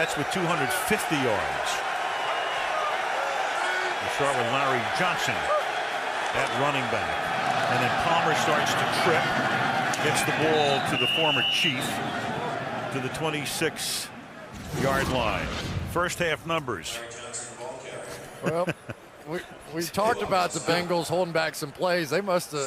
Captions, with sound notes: The Jets with 250 yards. We'll start with Lowery Johnson at running back. And then Palmer starts to trip. Gets the ball to the former Chief to the 26-yard line. First half numbers. [stadium announcements] Well-- [laughs] We-- we talked about the Bengals holding back some plays.